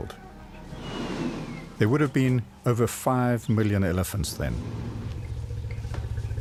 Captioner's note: animals calling